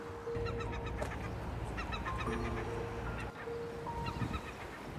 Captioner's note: seagulls cawing